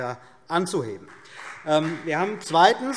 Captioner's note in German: Beifall BÜNDNIS 90/DIE GRÜNEN und vereinzelt CDU